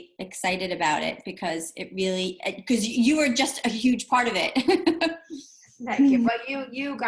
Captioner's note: laughs